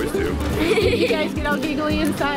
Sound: laughing

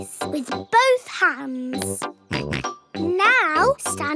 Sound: snorts

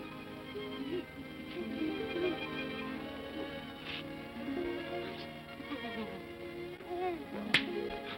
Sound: sentimental music; Scrooge sobs; claps hands together

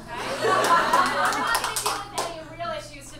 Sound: audience laughs

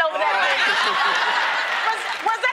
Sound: laughter

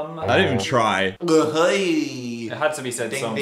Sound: makes guttural mouth noise

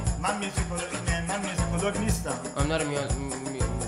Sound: speaking in farsi

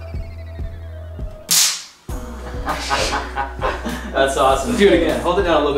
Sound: stun gun and laughing

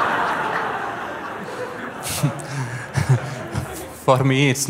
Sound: laughter

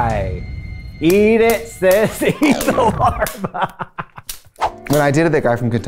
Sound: laughs

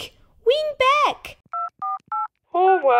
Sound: dialling

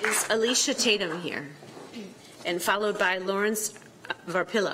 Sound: applause

